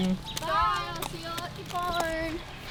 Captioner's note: girls In Unison